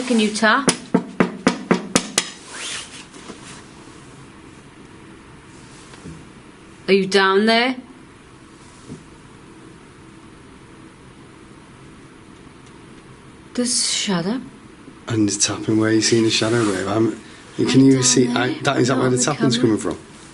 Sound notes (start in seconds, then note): 0.7 taps on door; 9.3 dull thuds